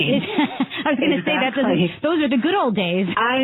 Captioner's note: laughs